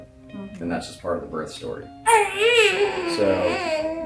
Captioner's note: cooing